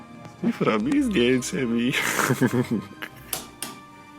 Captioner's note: laugh